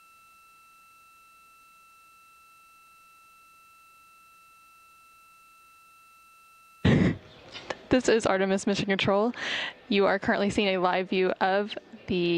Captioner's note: silence